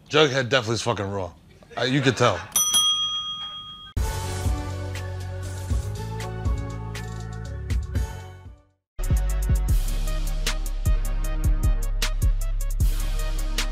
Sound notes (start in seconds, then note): 2.5 bell ringing